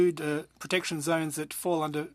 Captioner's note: speaking French